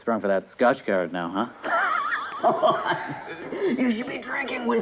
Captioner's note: raspy laugh